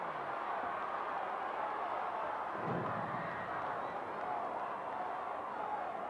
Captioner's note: audience cheering continues